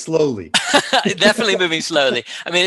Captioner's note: laughing